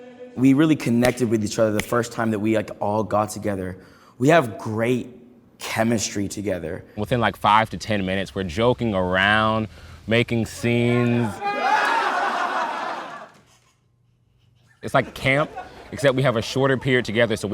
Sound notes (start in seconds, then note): 11.0 group laughing